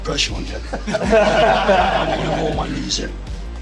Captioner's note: group laughing